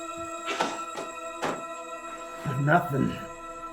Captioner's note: eerie music continues; hat rustling